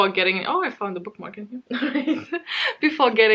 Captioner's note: laughs